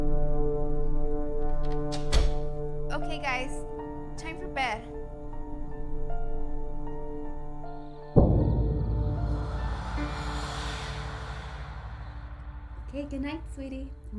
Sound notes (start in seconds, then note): 1.3 door clatters; 7.8 gentle, foreboding music; 7.8 ghostly whispers